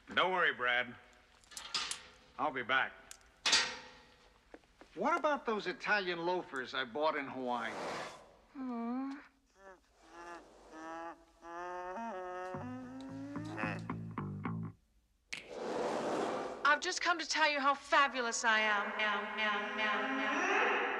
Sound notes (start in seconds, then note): 9.4 Стонет; 18.7 Эхо